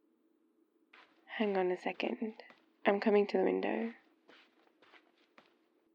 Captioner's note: footsteps